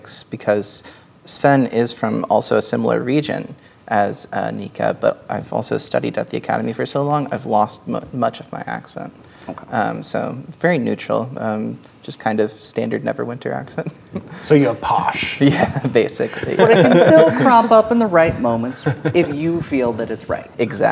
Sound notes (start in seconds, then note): 14.1 with posh accent; 16.2 chuckling